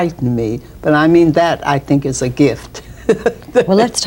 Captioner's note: laughs